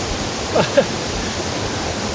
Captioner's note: laughing